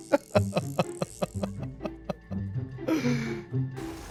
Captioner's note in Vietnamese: tiếng cười